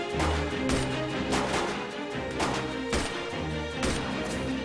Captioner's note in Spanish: Disparos